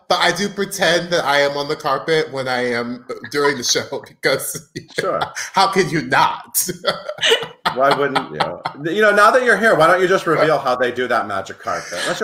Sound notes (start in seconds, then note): 3.1 laughing